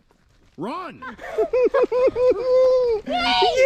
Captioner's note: laughs